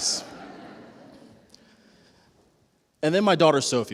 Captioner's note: laughter